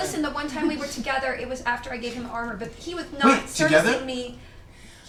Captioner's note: none